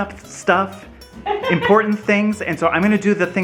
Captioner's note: laughs